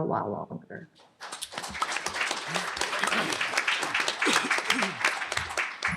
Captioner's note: applause